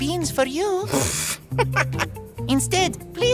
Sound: laughing

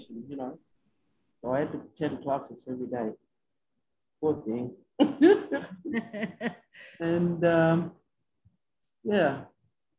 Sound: laughs

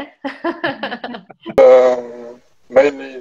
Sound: laughs

